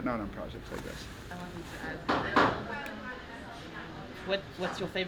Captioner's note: chatter